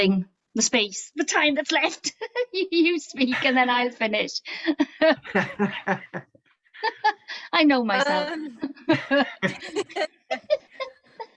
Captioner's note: laughing